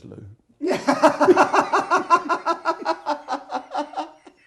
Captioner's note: laughing